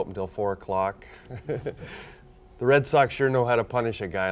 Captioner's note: chuckles